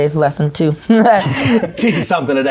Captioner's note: laughs